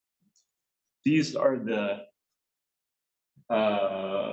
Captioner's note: coughs